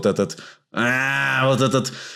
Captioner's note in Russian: звуки рычания